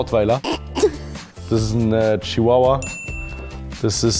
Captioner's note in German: Glucksen; Klingeln